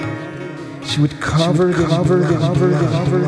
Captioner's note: echoing